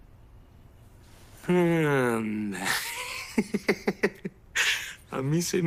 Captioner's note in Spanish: Se ríe